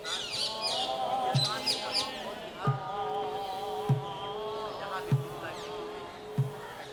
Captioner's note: chanting; drums beating